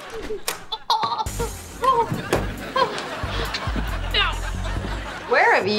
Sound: moaning

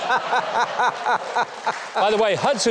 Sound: co-host laughing; audience laughing

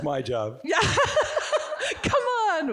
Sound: chuckles

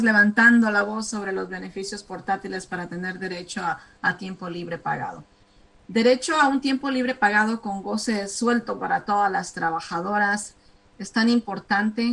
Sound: speaking spanish

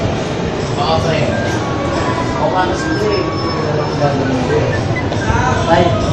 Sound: talking on the phone

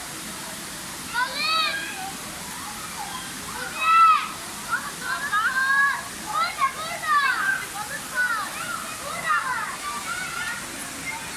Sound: children's shouts

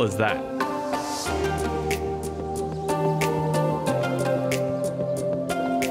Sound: bright upbeat music; birds twittering

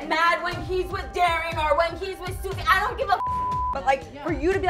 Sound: beep

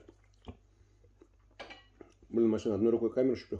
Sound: chewing & slurping

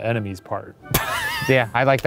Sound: laughing

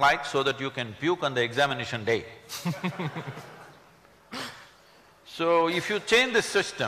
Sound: laughter

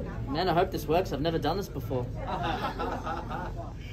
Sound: laughters

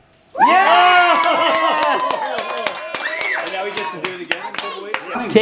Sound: people cheering and clapping

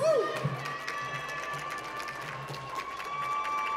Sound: applause

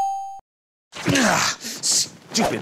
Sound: check mark dings; grunts; dress rips

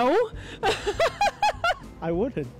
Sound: laughs

